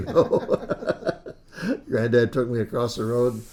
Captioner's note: laughs